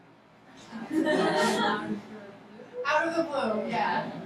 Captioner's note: laughing